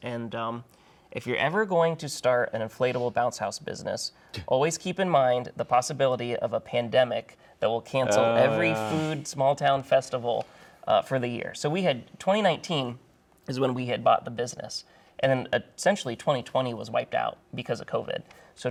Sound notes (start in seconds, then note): none